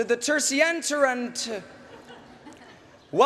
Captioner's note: laughter